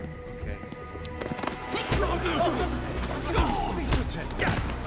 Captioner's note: crowd gasping